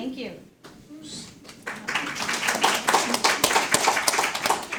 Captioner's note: attendees applaud